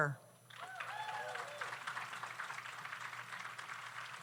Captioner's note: audience applauds